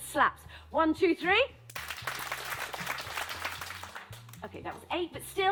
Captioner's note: six claps